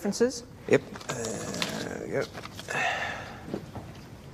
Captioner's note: sighs